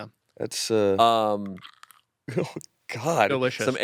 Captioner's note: crunches grape